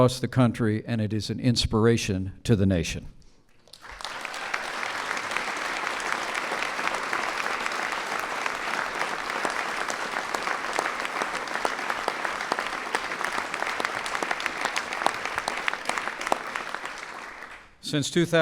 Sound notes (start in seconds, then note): 3.6 applause